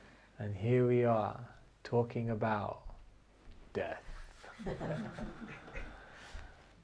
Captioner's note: laughter